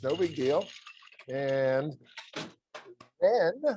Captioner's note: ice clattering